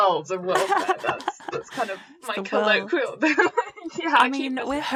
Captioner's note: laughter